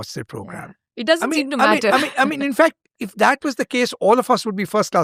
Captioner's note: laughter